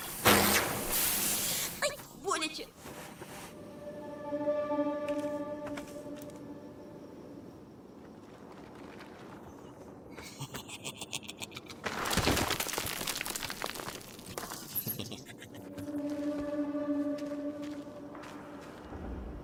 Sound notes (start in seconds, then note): 0.0 sizzling; 1.2 inhales sharply; 10.1 unhinged laughter; 14.6 throaty cackling